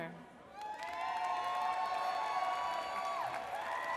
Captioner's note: audience cheers